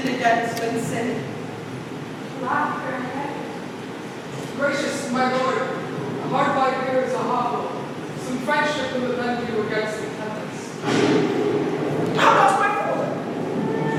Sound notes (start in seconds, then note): 10.8 thunder cracks